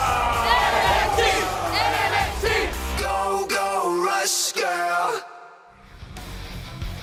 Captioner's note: crowd cheering